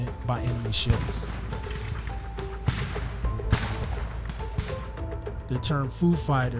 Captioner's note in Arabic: استمرار إطلاق النار مستمر